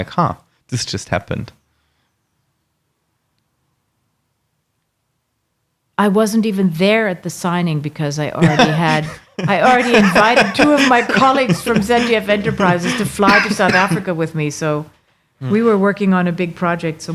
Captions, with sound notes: "Ha, this just happened." - I wasn't even there at the signing because I already had, (laughing) I already invited two of my colleagues from ZDF Enterprises to fly to South Africa with me, so. We were working on a big project